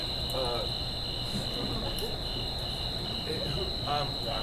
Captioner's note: Puck stammering